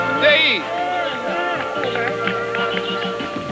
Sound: applause

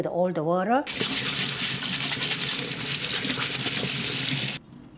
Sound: scrubbing

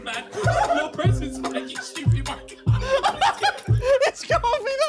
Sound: laughing

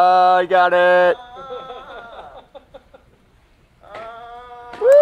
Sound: man exclaims; audience laughs; audience applauds

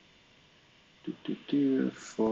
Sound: humming

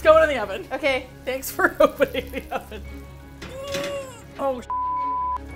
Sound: laughing; grunts with effort

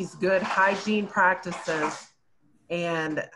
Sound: shuffling

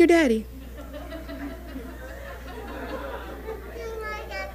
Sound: audience laughing

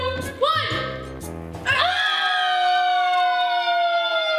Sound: screams

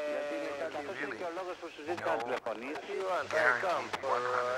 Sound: French spoken audio

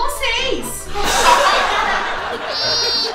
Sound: laughs

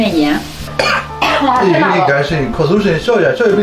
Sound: coughs from the Chilli fumes

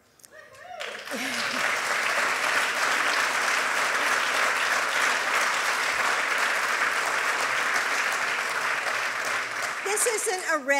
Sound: applause

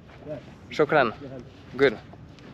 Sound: speaking in foreign language

